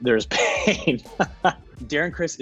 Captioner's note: laughs